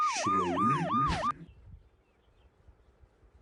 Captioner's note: distorted